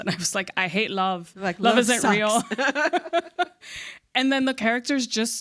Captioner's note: laughs